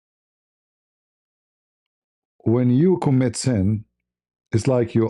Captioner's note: none